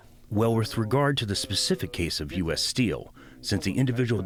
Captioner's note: through translator